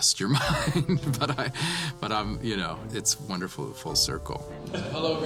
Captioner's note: laughs